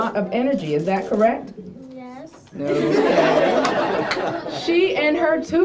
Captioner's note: laughter